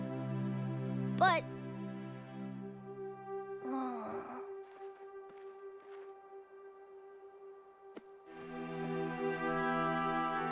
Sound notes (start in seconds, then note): 3.6 heavy sigh